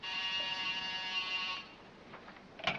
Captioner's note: phone rings